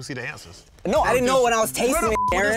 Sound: beep

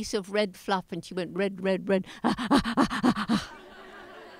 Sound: panting

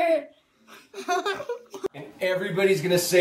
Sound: giggling

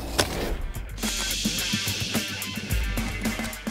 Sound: steam hissing; upbeat music

